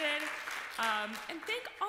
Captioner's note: applause